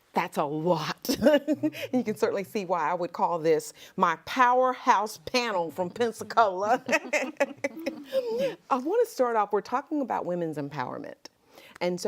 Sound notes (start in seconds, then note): 1.1 laughs; 6.4 laughs